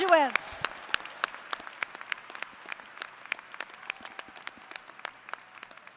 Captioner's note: applause